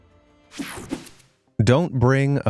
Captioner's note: air whooshing